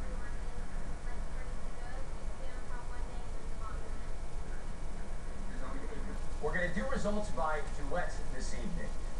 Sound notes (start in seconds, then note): 6.8 on TV